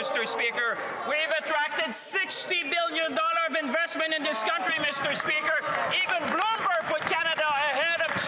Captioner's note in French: voix de l'interprète